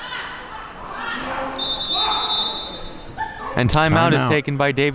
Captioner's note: referee blows whistle